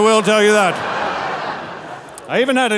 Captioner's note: audience laughing